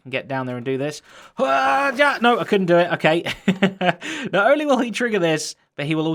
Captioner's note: chuckles